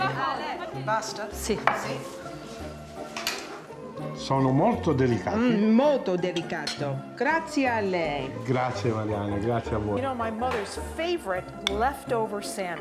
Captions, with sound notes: Pasta. Si. Si. Sola molto delicato. Molto delicate. Grazie. [speaking Italian] You know, my mother's favorite left over sandwich.